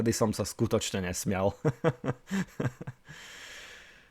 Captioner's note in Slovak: smiech